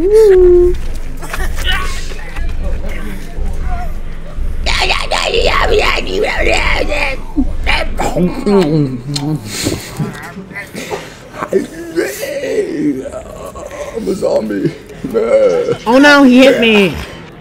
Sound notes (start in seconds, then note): 4.4 speaks in British